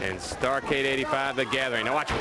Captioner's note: crowd chatter